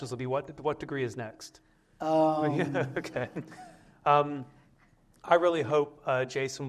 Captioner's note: laughter